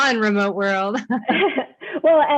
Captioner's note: chuckles